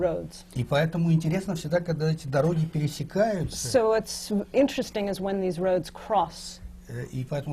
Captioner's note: foreign language not transcribed